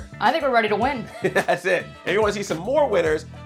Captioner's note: laughs